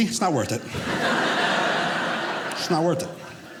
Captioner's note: audience laughing